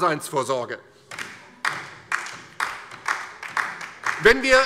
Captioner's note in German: Beifall DIE LINKE